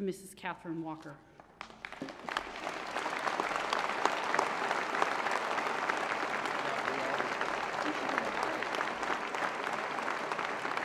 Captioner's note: applause